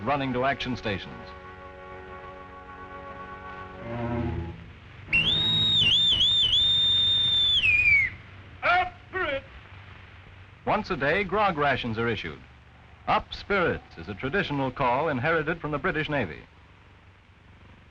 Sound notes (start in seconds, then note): 5.1 loud whistle; 9.0 voiceover